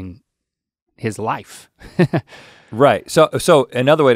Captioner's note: chuckles